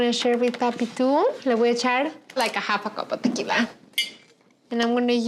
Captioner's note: speaking Spanish